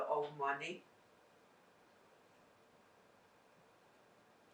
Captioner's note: pauses 8 seconds